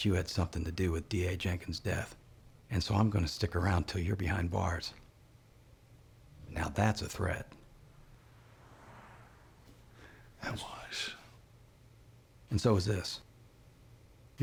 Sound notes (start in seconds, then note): 10.3 scottish accent